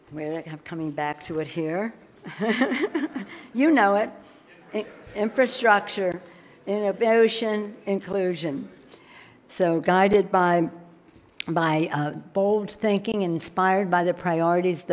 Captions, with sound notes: Where, I'm coming back to it here. (laughing) You know it, infrastructure innovation, inclusion. Guided by bold thinking, inspired by the priorities